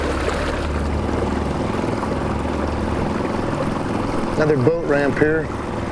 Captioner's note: motor puttering